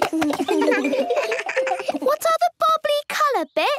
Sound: giggles

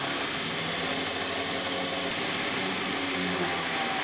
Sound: grinding noise in the background

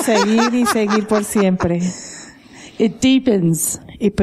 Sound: laughter

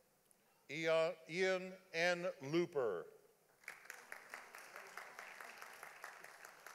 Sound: audience applauding

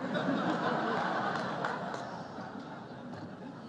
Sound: laughter

